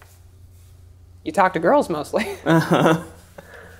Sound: laughs

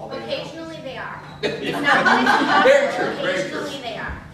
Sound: laughter

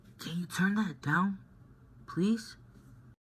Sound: none

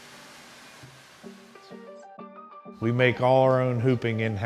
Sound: none

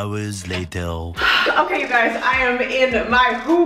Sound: sighs

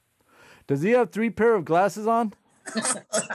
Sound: laughter

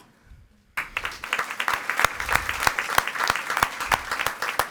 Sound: audience applauding

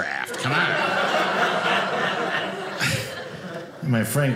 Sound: audience laughing

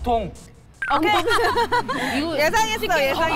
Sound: ha Ha Ha

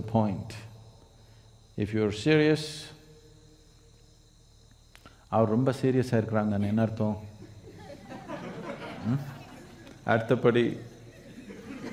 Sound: speaks in Tamil

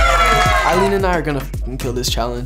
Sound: housemates cheering

